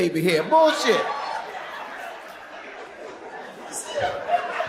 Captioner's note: audience laughs